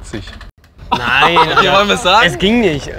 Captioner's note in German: lautes Lachen